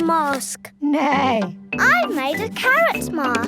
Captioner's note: imitates horse whinnying